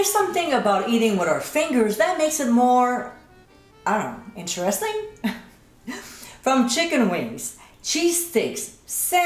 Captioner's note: giggling